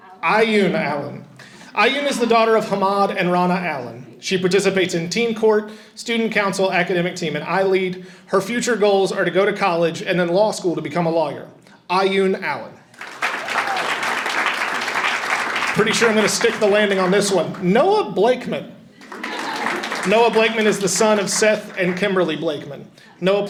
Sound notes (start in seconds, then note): 12.9 audience applauding and cheering; 19.0 audience chuckles